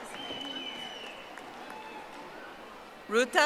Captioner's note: audience applauding